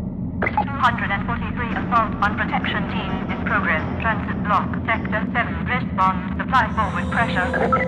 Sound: radio

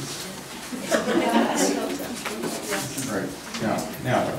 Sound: laughing

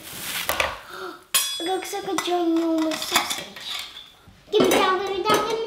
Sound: gasps

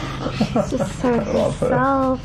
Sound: laughs

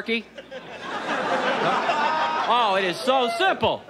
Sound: audience laughs

